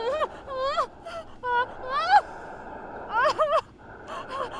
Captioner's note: Sarah whimpering and crying